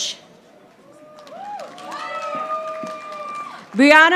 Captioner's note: audience applauding